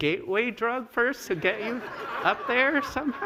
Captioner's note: laughter